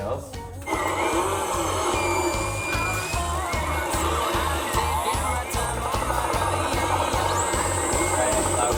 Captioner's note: whale noises